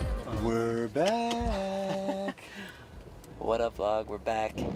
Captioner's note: chuckling